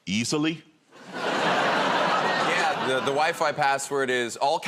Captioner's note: laughter